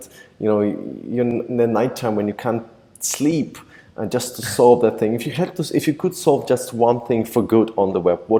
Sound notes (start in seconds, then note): 4.4 laughs